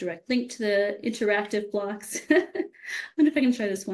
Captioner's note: laughs